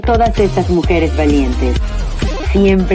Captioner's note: foreign language 00:43:03